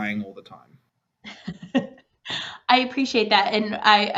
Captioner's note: laughing